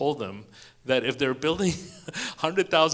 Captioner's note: chuckles